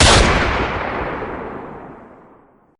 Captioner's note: gunshots